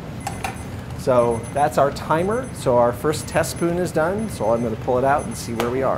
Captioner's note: timer beeping